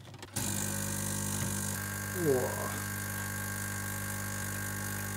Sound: coffee machine whirring

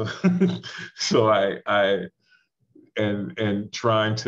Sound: chuckles

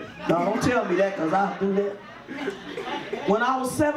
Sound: audience laughs

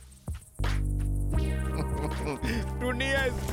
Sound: Tobor chuckling

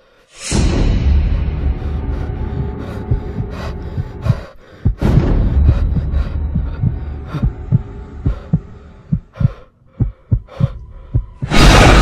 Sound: heavy breathing

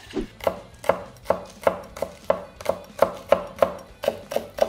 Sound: knife chopping on board

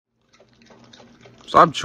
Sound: chew, chew, chew, chew, chew, chew

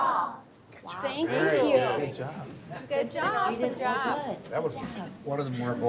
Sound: crowd

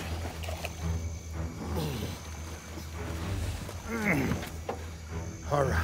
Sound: grunting

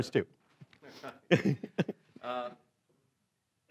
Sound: laughing

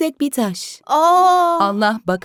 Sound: surprise sounds

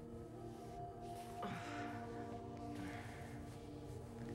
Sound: soft groaning

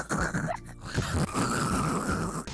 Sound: laughing; dying noises

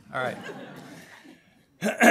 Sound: laughter

